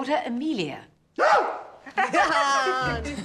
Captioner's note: screams; laughs